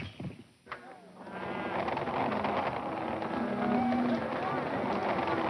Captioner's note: cattle moaning